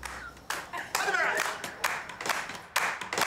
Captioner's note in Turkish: Alkış sesleri